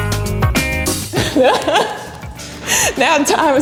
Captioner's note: laughing